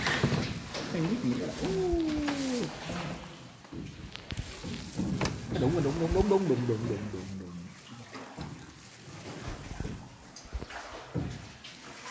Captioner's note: sound of rowing boat